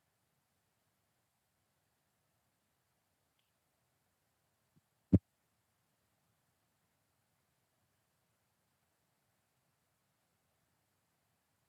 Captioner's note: silence